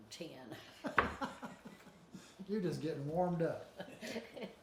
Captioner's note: chuckles